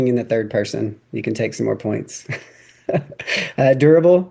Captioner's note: laughs